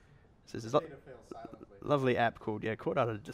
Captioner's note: voiceover